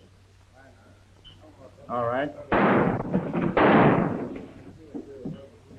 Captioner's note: gun firing